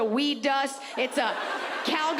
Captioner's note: audience laughs